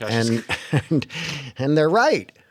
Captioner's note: laughter